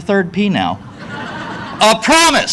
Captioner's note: audience laughing